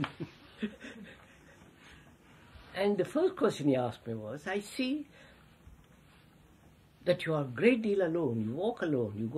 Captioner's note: laughs